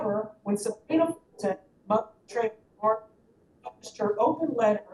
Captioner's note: audio cuts in and out